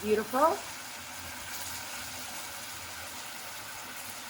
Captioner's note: sizzling